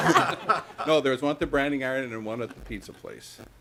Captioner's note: laughter